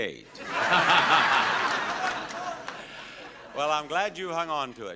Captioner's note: audience laughing